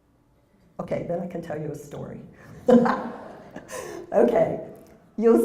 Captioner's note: laugh